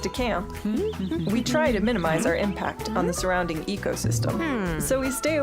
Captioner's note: humming